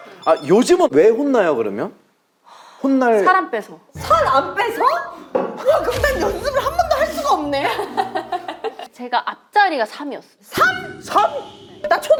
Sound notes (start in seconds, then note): 7.9 laughing